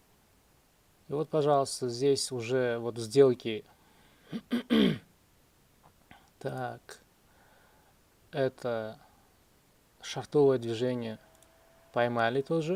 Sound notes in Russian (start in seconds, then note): 4.3 откашливается